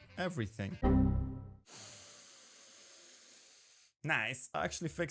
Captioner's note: heavy Breathing